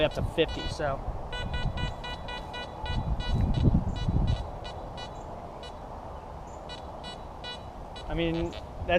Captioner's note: detector beeps